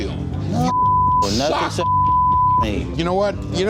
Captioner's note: beep